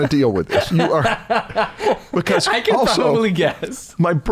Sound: laughter

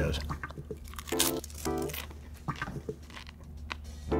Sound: chips crunch

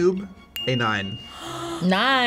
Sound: bell dinging

